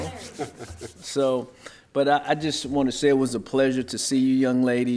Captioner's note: laughter